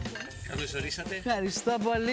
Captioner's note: speaking greek